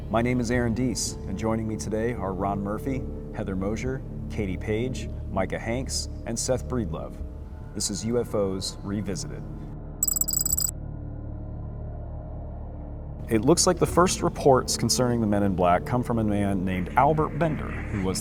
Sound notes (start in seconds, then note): 10.0 ominous music; 10.0 logo beeps